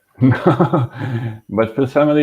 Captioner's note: laughing